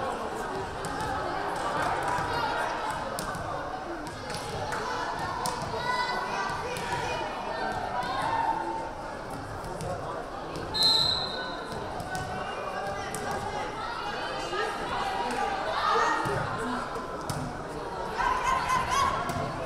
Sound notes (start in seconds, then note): 10.8 whistle blaring